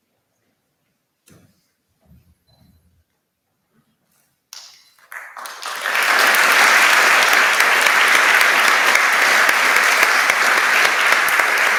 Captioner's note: applause